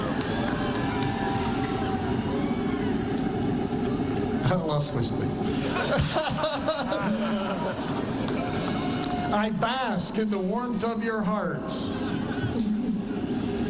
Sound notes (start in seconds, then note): 2.6 cheers and applause; 10.0 laughter